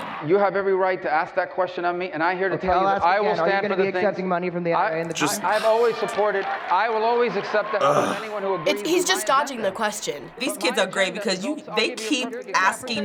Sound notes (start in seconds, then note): 5.0 scoffing